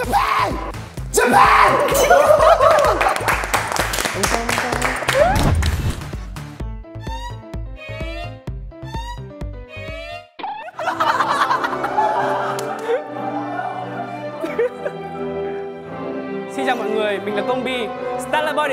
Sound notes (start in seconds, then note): 1.9 hahahahahaha